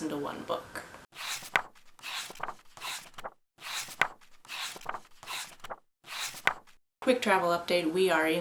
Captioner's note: pages turning